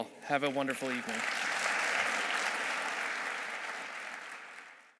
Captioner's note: audience applauding